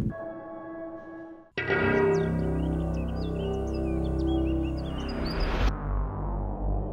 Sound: dings; ominous music; birds chirping; mysterious tonal music

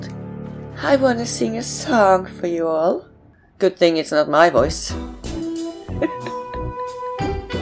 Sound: laughs

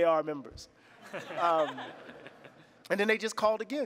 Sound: laughter

